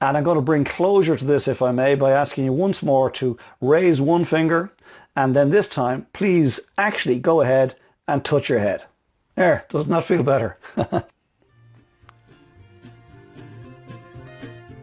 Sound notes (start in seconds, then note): 10.6 laughs; 11.4 bright music